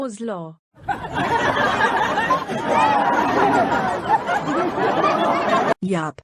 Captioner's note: class bursts into laughter